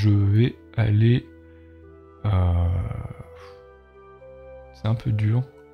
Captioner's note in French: Soupir